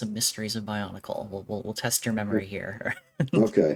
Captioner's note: laughs